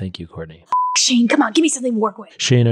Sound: beep

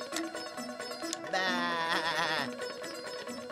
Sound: bleating

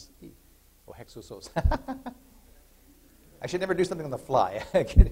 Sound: laughter

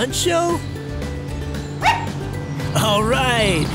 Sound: Lizzy barks

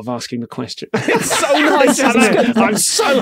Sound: group laughing

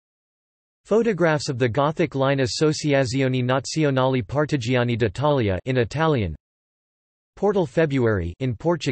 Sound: in Italian

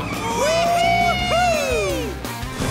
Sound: cheering

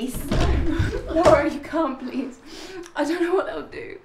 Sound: Sarah sobs

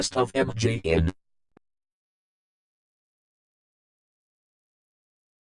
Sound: silence

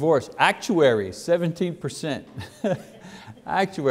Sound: laughs

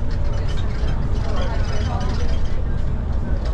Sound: chatter

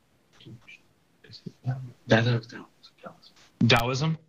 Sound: students whispering

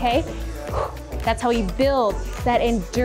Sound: exhales

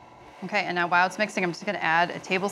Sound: mixer whirring

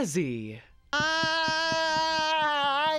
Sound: screaming

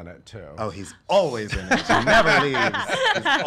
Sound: laughter

